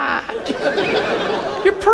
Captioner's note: audience laughs